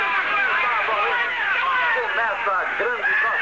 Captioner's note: all Shouting